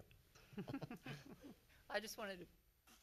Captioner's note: laughs